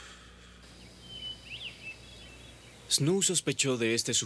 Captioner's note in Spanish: pássaros cantando